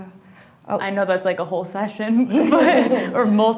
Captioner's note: laughs